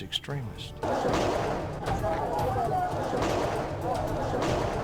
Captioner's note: gun fires